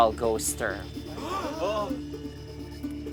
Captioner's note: campers gasp